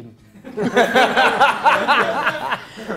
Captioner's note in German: Lachen